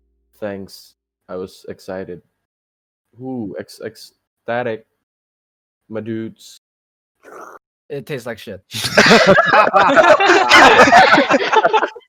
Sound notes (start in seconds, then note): 7.2 slurp; 8.7 laughing